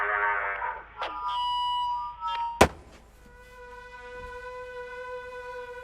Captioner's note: microphone feedback rings; intense music